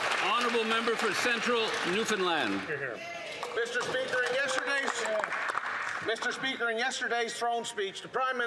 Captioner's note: applause